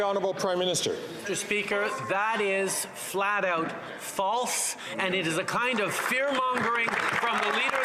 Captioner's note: some Applause